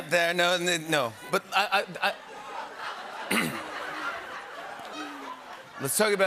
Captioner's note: laughter